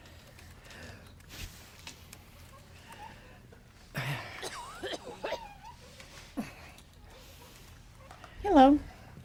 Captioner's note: heavy breathing